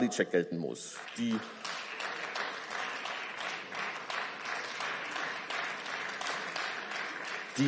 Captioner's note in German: Beifall